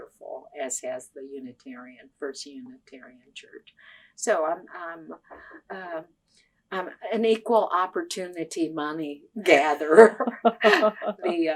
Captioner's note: laughter